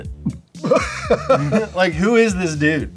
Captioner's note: laughs